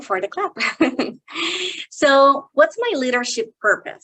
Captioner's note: chuckles